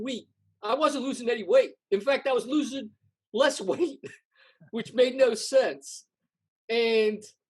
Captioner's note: laughs